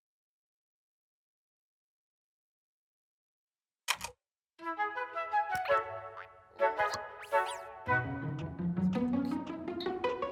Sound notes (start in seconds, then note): 3.9 click; 6.6 caterpillar noises